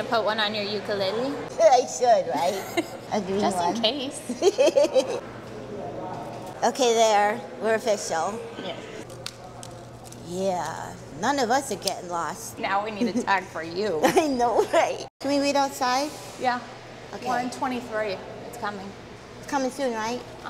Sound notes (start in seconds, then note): 4.2 laughs